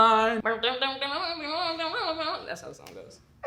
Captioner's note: mimics instrument